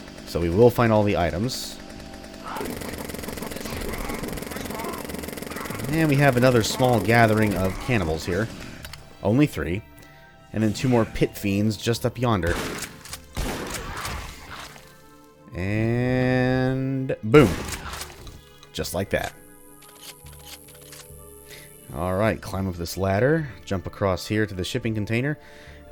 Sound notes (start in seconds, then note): 12.4 shotgun blasts; 17.4 shotgun blasts again